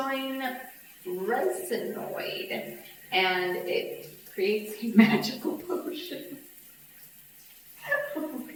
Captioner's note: laughs